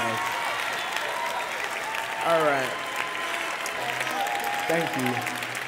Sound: applause; applause

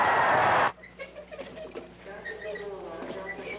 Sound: distant sounds of baseball crowd cheering; cart wheels squeaking

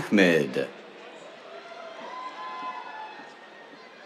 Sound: cheers

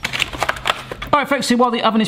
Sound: package rustling

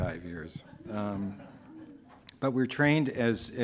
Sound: laughing

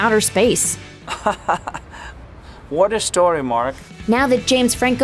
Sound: laughter

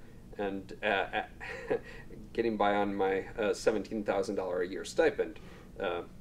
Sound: laughs

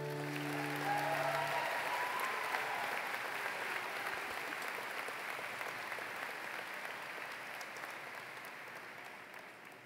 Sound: applause

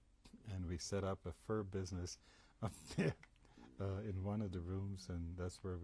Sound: laughs

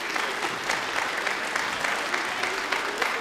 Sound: applause

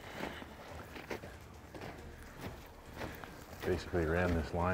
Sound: snow crunches

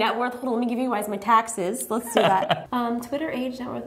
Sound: laughter

